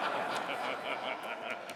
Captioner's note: laughter